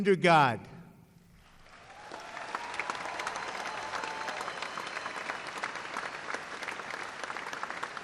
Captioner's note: applause